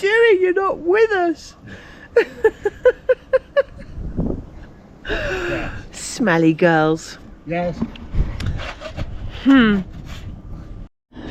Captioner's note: laughter